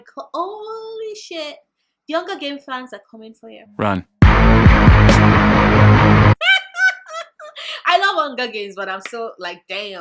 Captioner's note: laugh